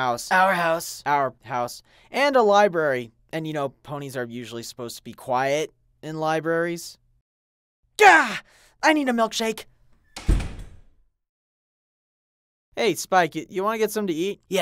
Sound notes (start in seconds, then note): 10.1 door slams